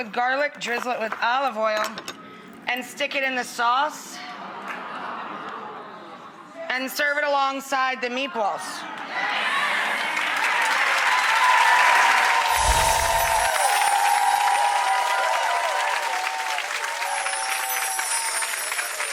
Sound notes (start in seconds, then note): 9.2 audience cheering